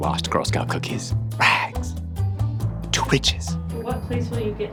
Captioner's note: whispers